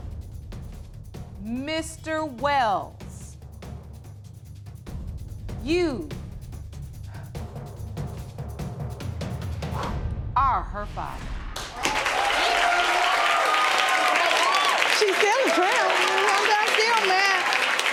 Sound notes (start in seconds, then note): 8.7 exhales; 11.6 audience cheering and applauding